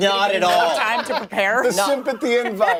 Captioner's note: laughter